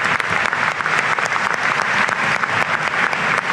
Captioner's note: applause